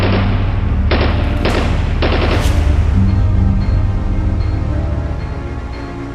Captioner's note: ominous music; gunshots